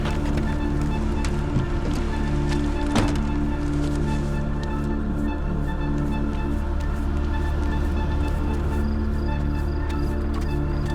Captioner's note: suspenseful music; crickets chirping